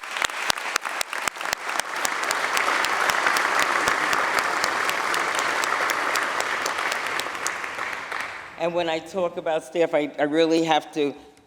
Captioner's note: applause